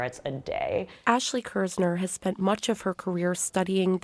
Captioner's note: voice-over